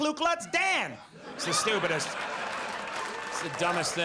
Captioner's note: audience laughs